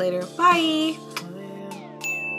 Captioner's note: kiss; ding